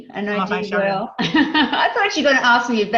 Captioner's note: laughs